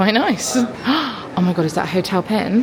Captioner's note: gasping